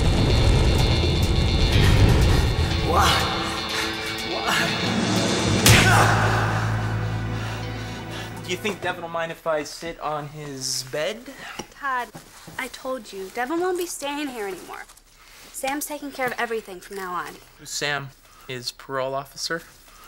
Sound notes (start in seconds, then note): 1.7 groaning; 6.8 gasping